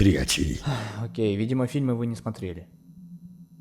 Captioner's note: sigh